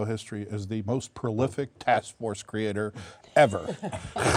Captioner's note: laughter